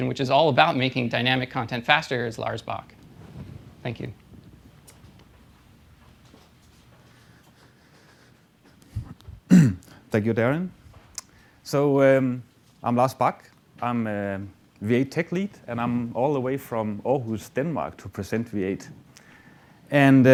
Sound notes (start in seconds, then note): 4.9 pause; 9.4 clears throat